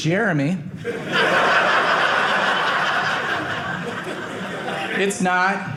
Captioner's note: audience laughing